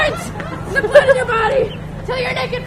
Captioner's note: laughter